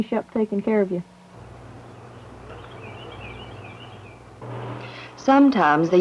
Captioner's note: outdoors and birds chirping